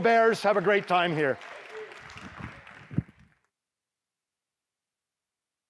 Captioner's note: applause